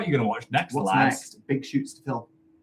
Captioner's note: overlapping chatter